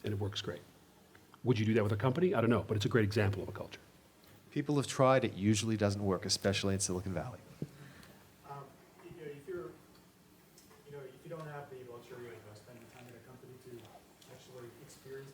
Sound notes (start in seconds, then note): 8.2 man speaks off mic